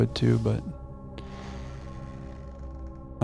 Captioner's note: sighs